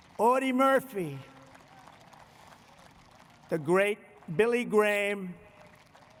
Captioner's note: applause